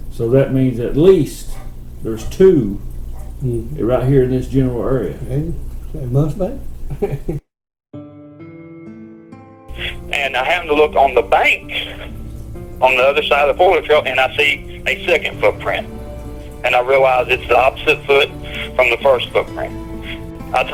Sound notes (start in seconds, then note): 6.9 chuckles; 8.1 contemplative string music